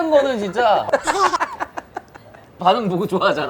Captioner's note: laughing